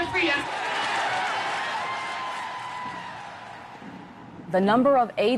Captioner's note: crowd cheering